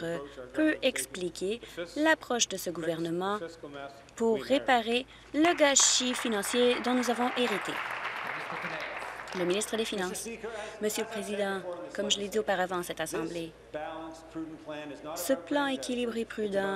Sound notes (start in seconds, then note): 9.5 applause